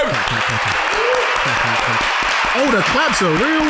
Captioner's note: audience cheering